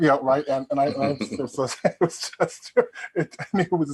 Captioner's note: Joe chuckling